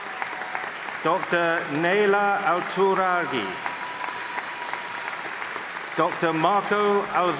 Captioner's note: applause